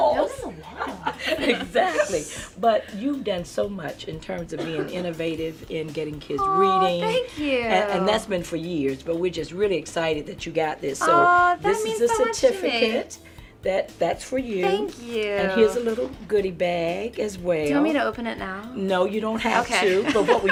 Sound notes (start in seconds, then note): 0.0 laughing